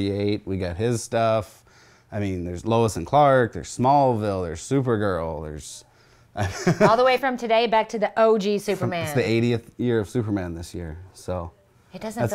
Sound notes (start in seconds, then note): 6.4 laughs